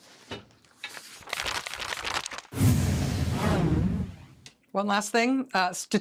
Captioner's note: page turning